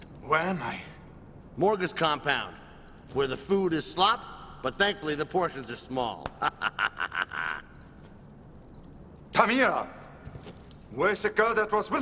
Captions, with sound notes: - Where am I? - Morga's compound, where the food is slop, but thankfully the portions are small. (laughs) - Tamira! Where is the girl that was with me?!